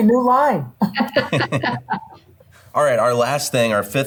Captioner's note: all laughing